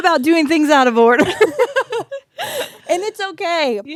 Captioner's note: both laughing